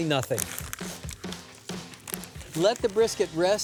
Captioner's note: paper rustling